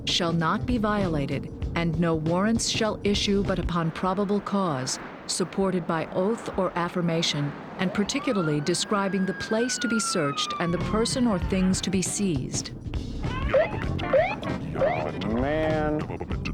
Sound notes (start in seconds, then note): 7.6 sirens wailing